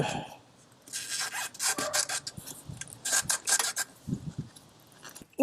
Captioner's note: rubber squeaking